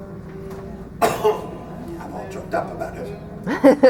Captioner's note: cough